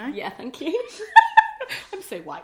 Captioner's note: both laugh